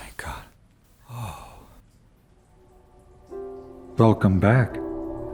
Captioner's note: sighs